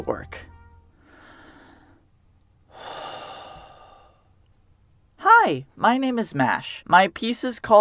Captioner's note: slow inhale and exhale